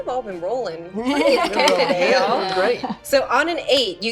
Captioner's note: laughing